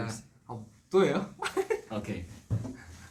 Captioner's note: laughs